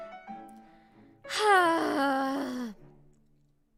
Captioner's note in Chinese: 嘆氣